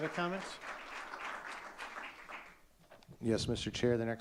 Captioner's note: audience clapping